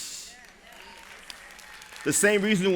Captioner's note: applause